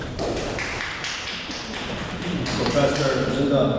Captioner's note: audience applauds